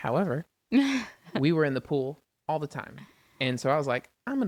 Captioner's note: laughs